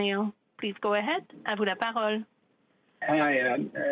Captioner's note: speaking French